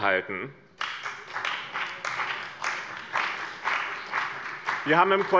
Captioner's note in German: Beifall bei dem BÜNDNIS 90/DIE GRÜNEN und der CDU